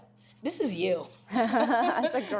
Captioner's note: everyone laughing